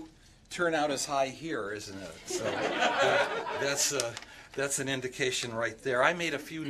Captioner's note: laughter